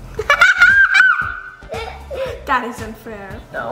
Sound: laughs

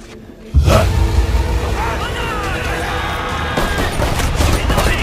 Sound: lots of banzais

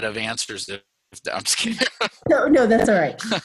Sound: laughs

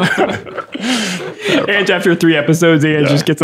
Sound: laughter

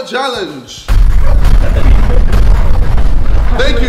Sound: explosive sound

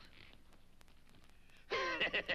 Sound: One Eye cackles

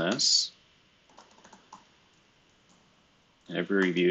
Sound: computer keyboard clicking

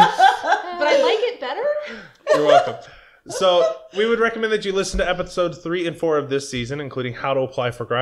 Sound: laughter

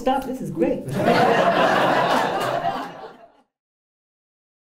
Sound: laughter

